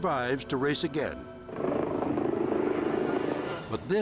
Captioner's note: helicopter whirring